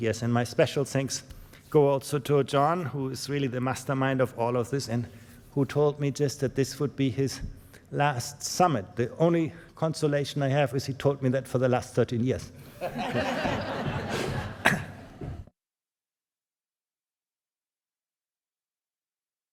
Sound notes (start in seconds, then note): 12.7 laughter